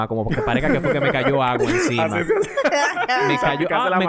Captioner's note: laughs